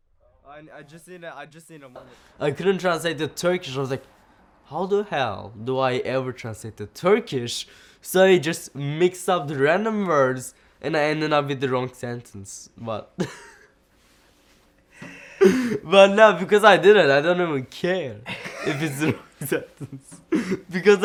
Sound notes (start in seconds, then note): 15.0 laughing; 18.2 laughing